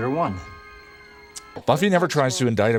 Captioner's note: lip moisten